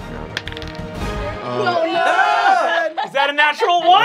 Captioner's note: dice clacking; yelling